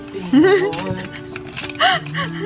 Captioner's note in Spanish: se ríe